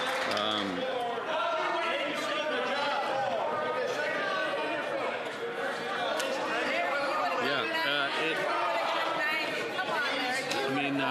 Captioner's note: cheering and Applause